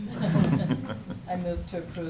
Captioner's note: laughing